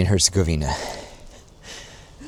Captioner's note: chuckles